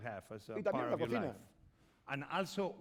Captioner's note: speaking spanish